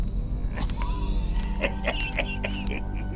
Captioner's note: coughing